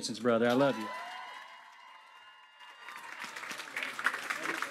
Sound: crowd cheering; crowd applauding

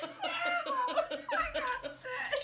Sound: laughing uncontrollably

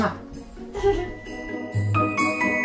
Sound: jolly, festive music; titters

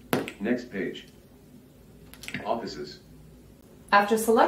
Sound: voiceover

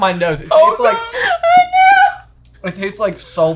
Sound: laughing

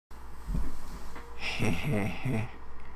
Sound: HEh HEh HEh

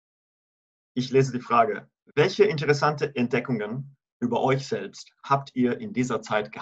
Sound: in German

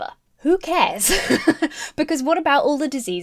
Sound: chuckling

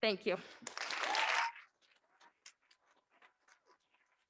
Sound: audience clapping

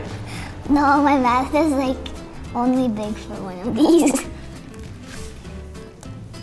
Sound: laughs

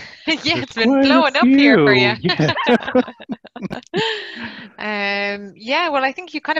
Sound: laughter

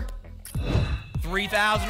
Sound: whoosh

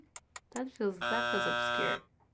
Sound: buzzer buzzes

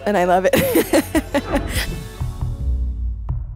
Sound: laughs

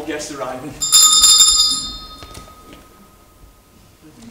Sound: bell Rings

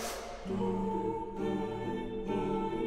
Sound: exhale; inhale

